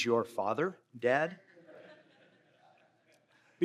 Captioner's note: laughter